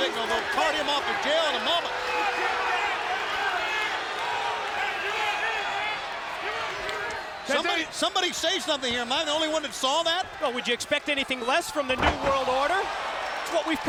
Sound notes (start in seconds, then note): 0.0 applause